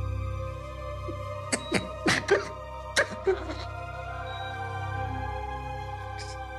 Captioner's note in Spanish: Sollozos